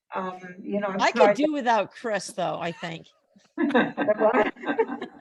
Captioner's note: laughs